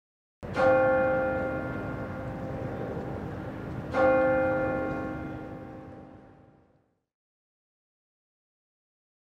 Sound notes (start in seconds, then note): 0.5 bell tolls